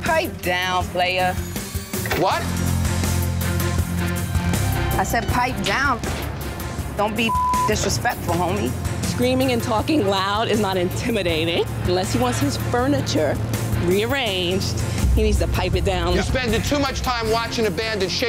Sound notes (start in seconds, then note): 1.4 dramatic music; 7.2 beep